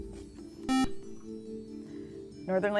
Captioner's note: buzzer